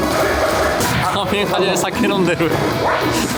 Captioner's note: laughs